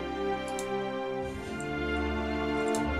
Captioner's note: clicking on computer mouse; typing on laptop keyboard